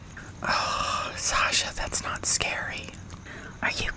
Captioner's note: groans